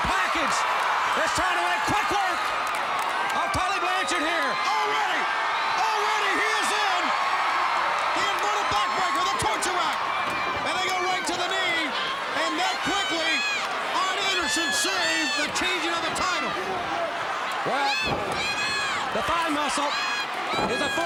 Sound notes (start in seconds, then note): 8.0 crowd cheering